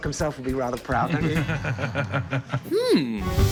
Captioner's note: laughter